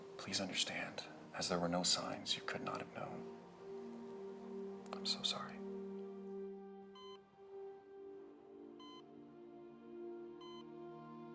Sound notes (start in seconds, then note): 7.0 beeping continues